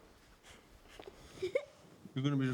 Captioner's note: giggles